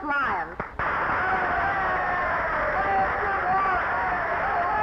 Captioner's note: audience cheering